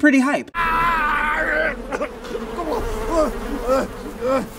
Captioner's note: screaming